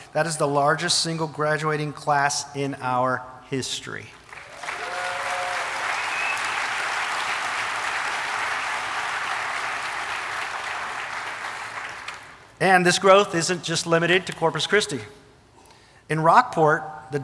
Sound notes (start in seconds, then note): 4.2 audience applauding and cheering